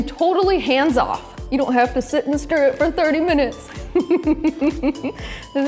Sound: laughs

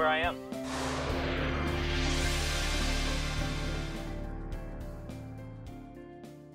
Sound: sweeping sound effect

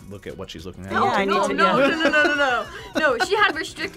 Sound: laughs

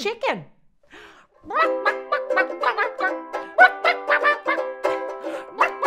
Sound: singing chicken clucks

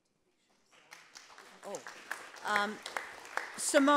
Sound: group applauding

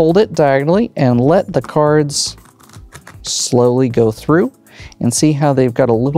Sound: cards riffling

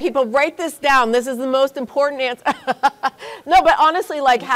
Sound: laughs

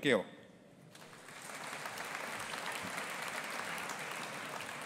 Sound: audience applauding

